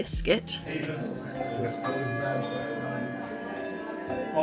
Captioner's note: handbells ringing